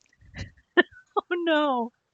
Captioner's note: giggles